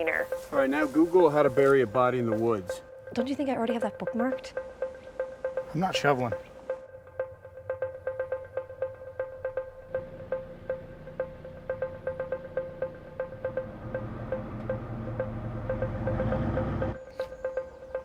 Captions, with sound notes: - All right, now Google how to bury a body in the woods. - Don't you think I already have that bookmarked? - I'm not shoveling. (tense music) (car purrs)